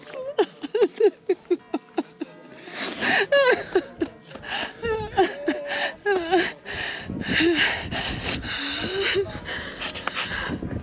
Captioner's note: crying, joy …